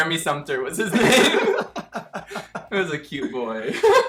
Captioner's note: both laughing